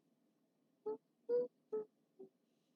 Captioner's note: humming